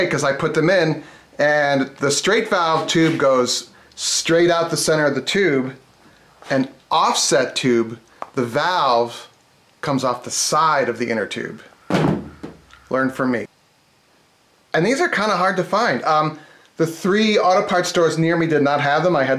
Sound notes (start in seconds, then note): none